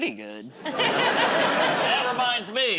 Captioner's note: laughter